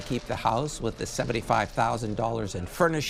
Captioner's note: applause